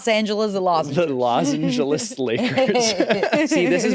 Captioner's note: laughs